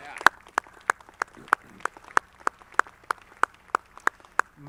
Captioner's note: audience clapping